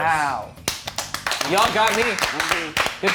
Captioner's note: everyone clapping